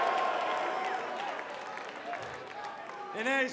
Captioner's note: cheers & applause